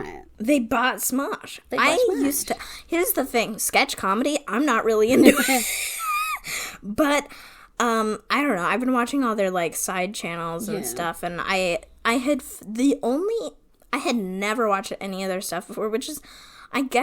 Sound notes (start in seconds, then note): 5.2 wheeze laughs